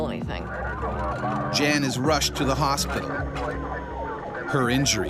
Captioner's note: voiceover